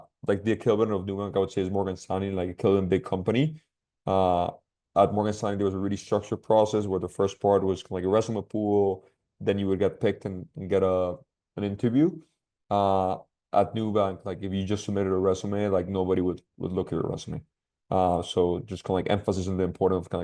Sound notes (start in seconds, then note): none